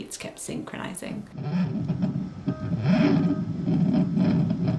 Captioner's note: monitor whooshes